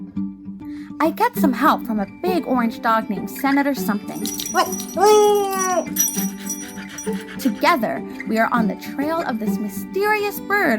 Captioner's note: dog panting